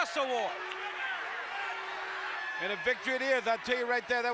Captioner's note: applause